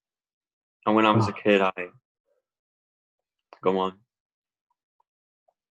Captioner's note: mumbles